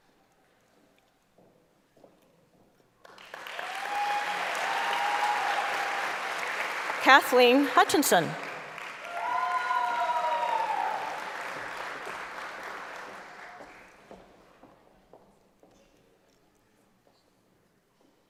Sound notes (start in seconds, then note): 6.1 applause; 12.1 cheering; 14.7 applause